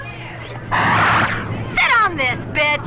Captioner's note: doors whoosh